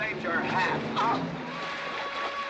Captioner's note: scoffing